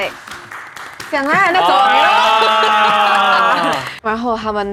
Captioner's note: slapping sounds